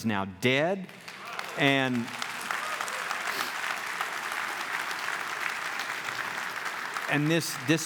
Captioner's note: clapping